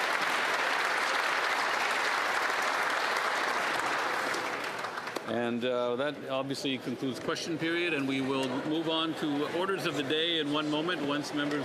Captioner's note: applause